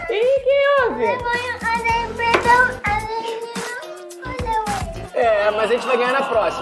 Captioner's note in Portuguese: chorando